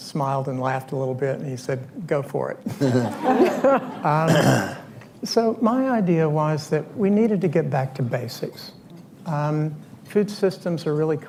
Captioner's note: laughter